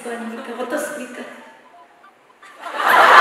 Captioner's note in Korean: 정적